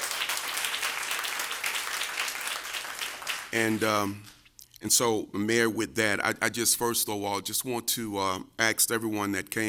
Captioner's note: cheers and applause